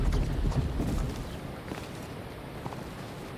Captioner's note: footsteps